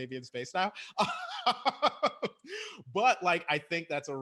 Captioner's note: laughs